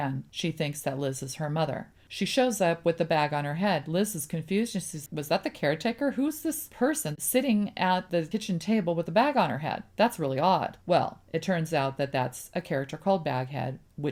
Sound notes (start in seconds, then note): none